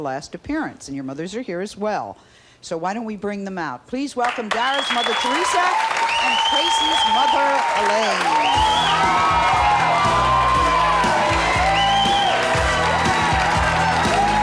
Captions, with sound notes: last appearance, and your mothers are here as well, so why don't we bring them out? Please welcome Daria's mother, Theresa, and Tracy's mother, Elaine. (audience applauds) (chill music)